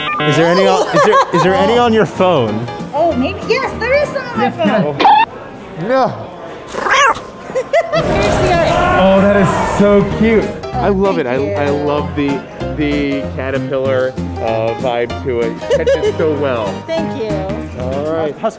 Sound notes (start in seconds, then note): 6.6 laughing; 6.8 meow!